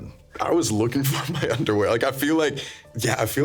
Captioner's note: laughing